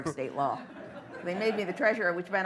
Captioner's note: laughter